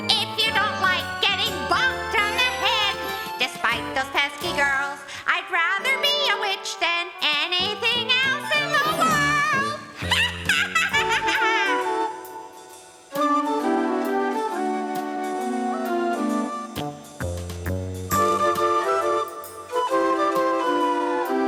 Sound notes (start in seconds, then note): 10.6 cackling; 12.3 light, playful music